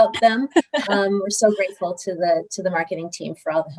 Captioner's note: laughter